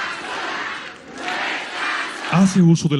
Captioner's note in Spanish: aplausos